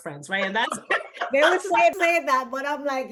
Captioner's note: both laugh